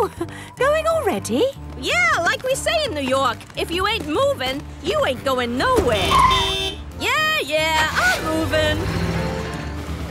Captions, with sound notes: - Oh! Going already? - Yeah, like we say in New York, if you ain't movin', you ain't goin' nowhere! (honking) Yeah, yeah! I'm movin'!